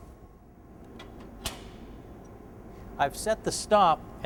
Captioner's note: stop clicking into place